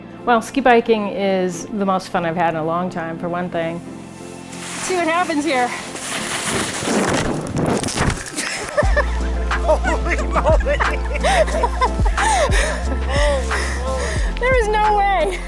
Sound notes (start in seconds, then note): 5.6 laughing